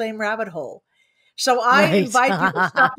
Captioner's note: laughs